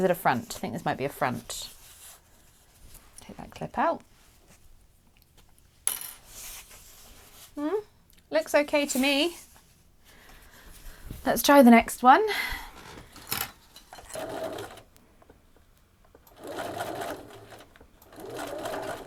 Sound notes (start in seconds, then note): 14.7 sewing in short bursts